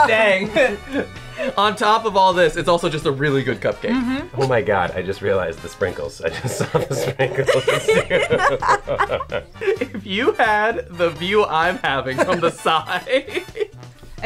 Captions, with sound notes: Dang. (laughs) On top of all this, it's also just a really good cupcake. - Mm-hmm! - Oh my God, I just realized, the sprinkles. I just saw the sprinkles. (both laugh) - If you had the view I'm having from the side. (laughs)